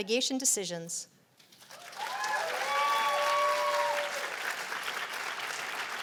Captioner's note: cheers and applause